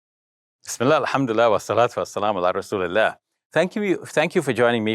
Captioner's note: foreign language